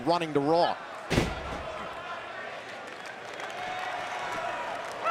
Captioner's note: canvas thuds